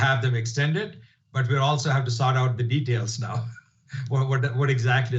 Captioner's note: laughs